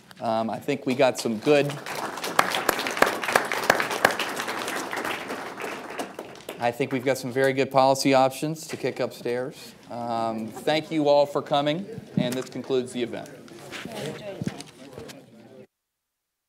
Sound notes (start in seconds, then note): 4.8 applause